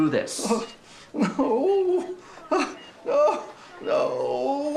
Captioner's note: crying